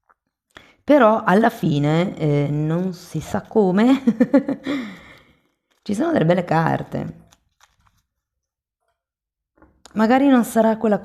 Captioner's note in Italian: risate